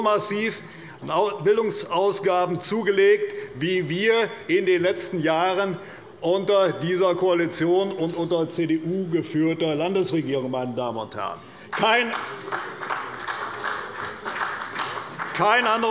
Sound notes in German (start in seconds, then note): 11.6 Beifall bei der CDU und dem BÜNDNIS 90/DIE GRÜNEN